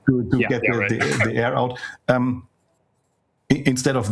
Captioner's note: laughs